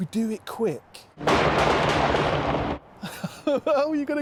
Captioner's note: multiple gun blasts; laughing